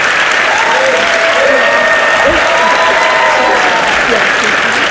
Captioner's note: audience cheers and applauds